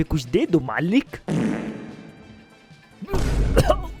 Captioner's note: farts